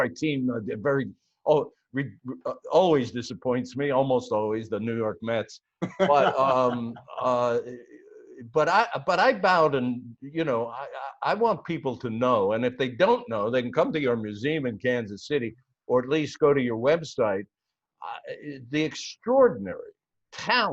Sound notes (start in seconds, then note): 5.8 laughter